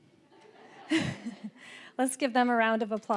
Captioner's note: all laughing